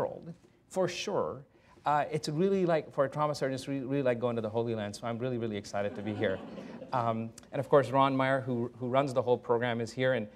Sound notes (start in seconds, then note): 5.8 laughter